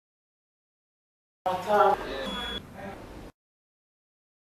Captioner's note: hospital ward noise